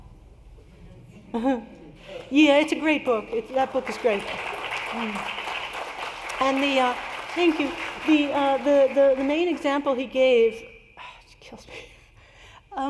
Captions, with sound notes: It's a great book. That book is great [APPLAUSE]. Thank you. The main example he gave, kills me.